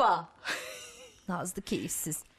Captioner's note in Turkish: Gülme sesi